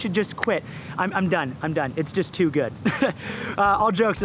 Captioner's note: laughs